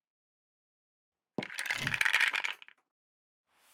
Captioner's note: tiles fall